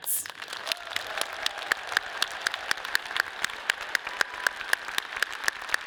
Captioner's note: audience cheers and applauds